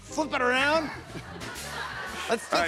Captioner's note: laughter